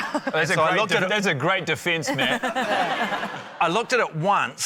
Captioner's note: laughter